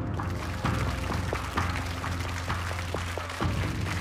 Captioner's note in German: Applaus